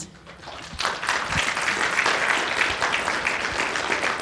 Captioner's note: audience applauding